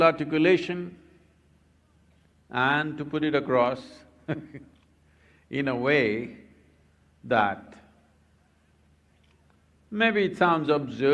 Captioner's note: laughs